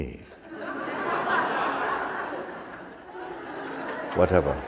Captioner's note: Lachen